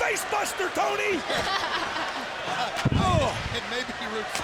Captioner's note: laughs